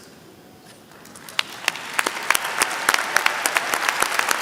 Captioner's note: applause